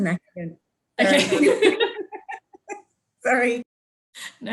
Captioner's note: laughs